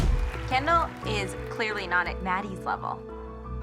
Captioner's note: cheers and applause